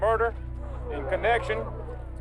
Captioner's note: crowd gasps